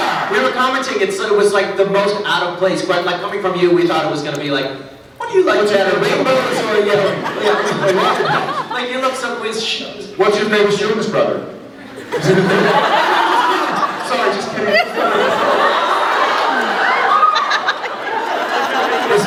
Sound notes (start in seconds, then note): 7.7 laughs; 11.7 laughs